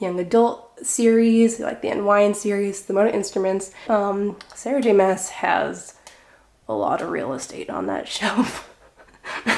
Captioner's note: laughing